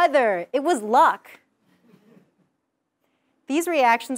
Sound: laugh

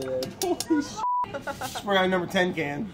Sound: beeping; laughing

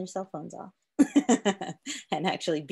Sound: laughs

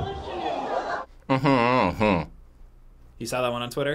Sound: crowd murmurs; hums

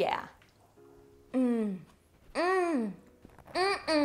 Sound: moaning

